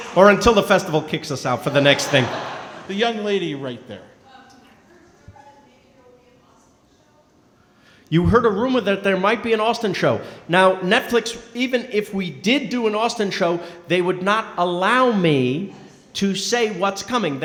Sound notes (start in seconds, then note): 0.0 crowd clapping & cheering; 4.4 speaking softly